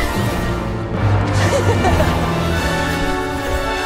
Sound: laughs

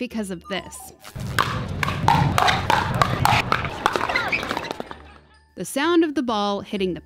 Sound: repeated sounds of ball pwocking

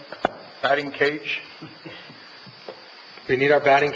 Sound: chuckles

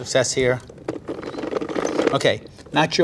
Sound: gyoza maker cranking

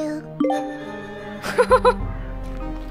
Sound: chuckles

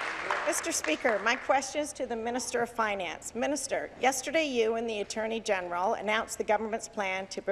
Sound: some Applause

